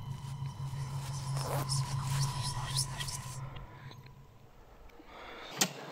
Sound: haunted whispers echoing

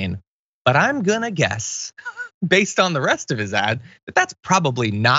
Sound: laugh

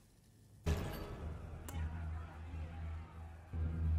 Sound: banging and noise outside cell

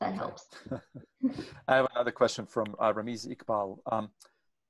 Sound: chuckles

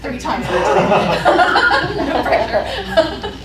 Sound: laughter

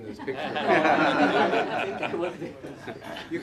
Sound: laughter

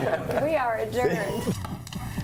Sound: laughter

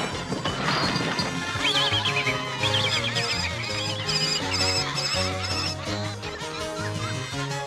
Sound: animals laughing

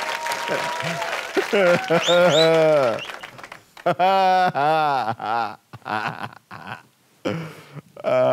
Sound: mockingly laughing

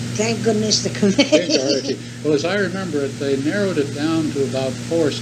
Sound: laughs

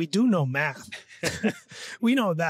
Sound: laughs

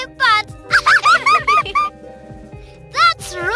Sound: laughter

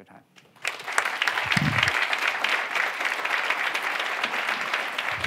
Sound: audience applauds

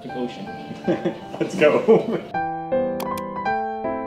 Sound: laughing

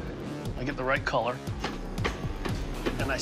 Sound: hammer tapping

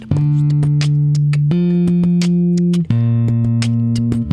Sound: beatboxing

